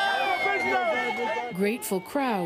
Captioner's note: cheers and Applause